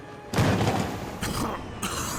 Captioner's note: thud; coughing